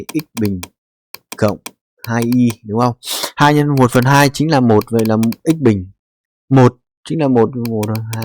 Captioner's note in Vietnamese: khịt mũi